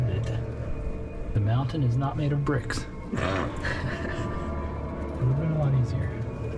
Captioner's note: laughs